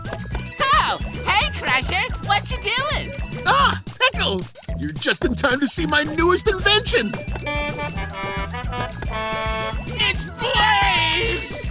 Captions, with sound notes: Oh, hey Crusher, what you doing? Ah, Pickle. You're just in time to see my newest invention. [horn honking] It's Blaze!